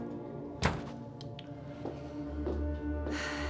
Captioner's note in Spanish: Sonido al cerrar la puerta